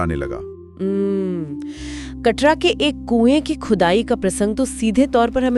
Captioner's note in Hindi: अचानक ज़ोर से सांस लेने की आवाज़